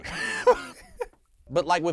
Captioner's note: laughs